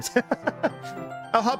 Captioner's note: laughs